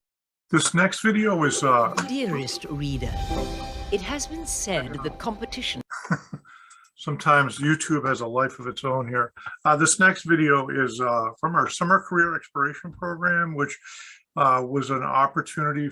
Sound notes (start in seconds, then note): 3.0 laugh